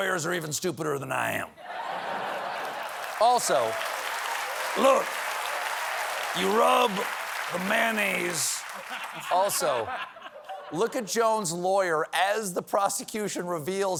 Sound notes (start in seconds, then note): 4.9 cheers and applause; 4.9 laughter; 11.4 laughter